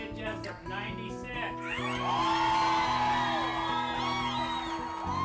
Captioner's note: cheering